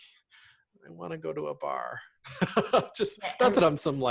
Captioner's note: laughs